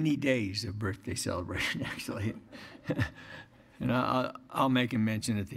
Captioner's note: laughter